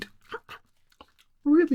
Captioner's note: chuckles